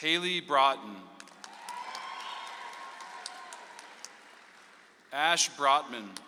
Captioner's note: audience applauds